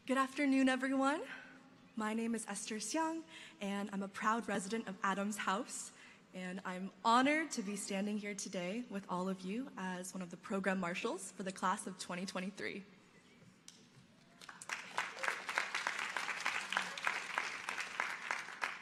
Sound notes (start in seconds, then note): 14.3 audience applauding